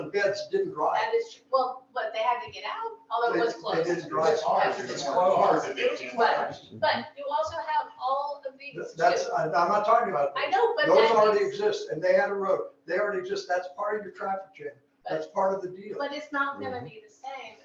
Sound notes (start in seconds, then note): 6.1 crowd mumbling